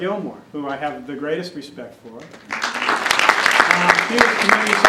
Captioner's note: applause